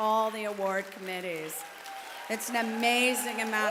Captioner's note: applause